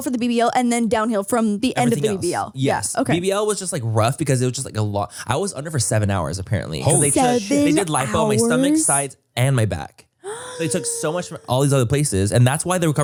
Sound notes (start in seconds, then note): 10.2 gasps